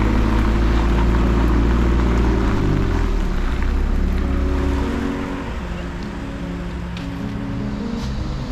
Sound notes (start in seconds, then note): 0.0 car engine hums; 4.8 thoughtful music